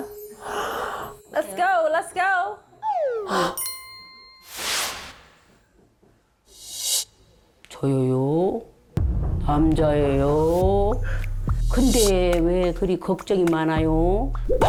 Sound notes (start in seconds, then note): 9.0 thud sound effect